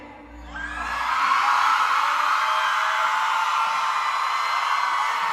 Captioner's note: crowd cheering excitedly